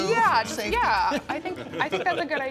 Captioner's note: chuckling